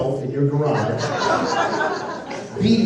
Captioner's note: laughter